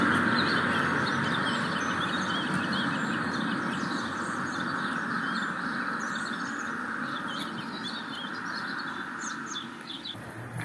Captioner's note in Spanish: Sonidos del pueblo y de pájaros piando